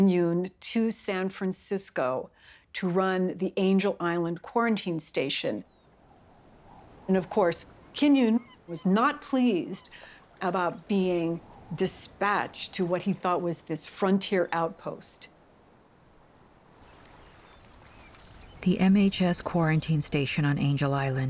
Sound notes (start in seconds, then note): 5.9 wind whipping